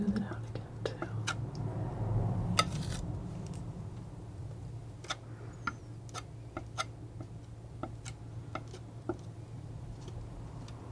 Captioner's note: scraping